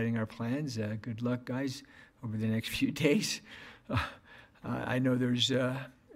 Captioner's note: laughs